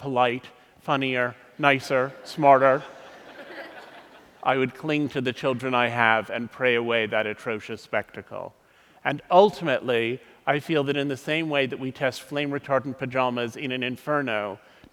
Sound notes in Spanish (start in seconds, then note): 2.6 Risas